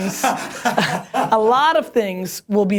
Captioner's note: laughter